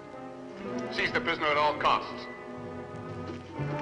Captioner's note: loudspeaker